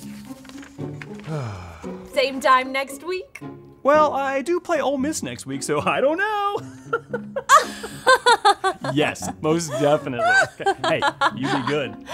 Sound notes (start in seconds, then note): 6.5 laughter of the Lane Train dropping 50 easy